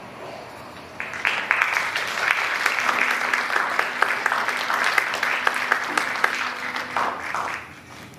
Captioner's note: applause